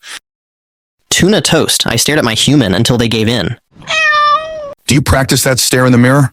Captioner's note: cat meow